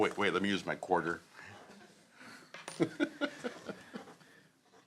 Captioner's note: laughter